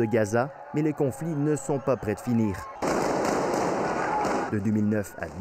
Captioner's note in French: tirs